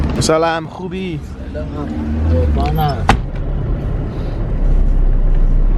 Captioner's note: car engine humming